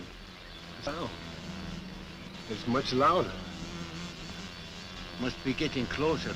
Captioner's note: wasps buzzing